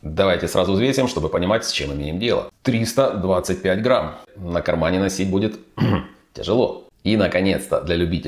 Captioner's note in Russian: откашливается